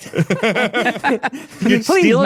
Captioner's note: everyone laughing